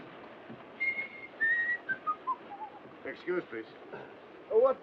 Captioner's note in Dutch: fluitend